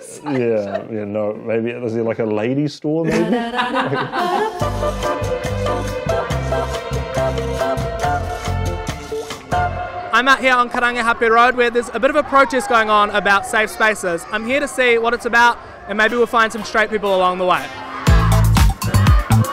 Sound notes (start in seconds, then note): 3.0 laughs; 3.0 upbeat music; 17.6 upbeat music